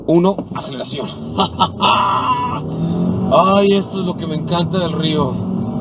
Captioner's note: engine roaring